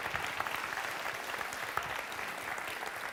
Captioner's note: applause